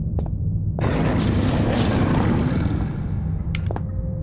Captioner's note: ferocious growling and rattling of chainlink